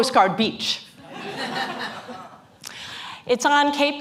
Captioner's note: laughter